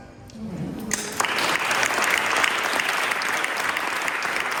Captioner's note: applause